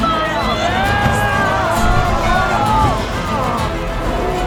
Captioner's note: crowd cheering